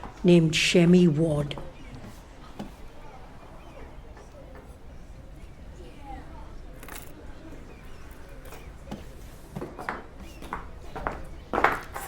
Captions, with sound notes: named Shemi Wad [DOCK YARD NOISES]